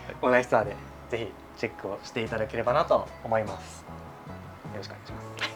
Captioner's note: laughs